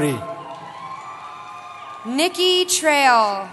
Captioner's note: cheering